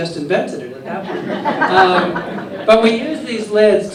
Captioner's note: laughter